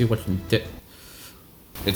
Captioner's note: sigh